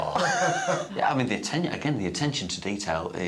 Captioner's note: all laughing